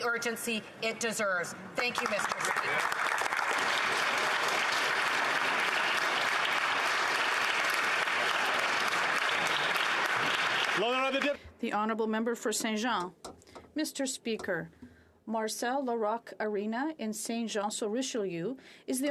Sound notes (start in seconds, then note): 12.3 applause